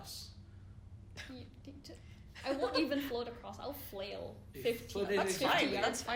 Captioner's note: stutters